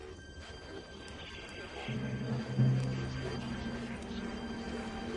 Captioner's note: помехи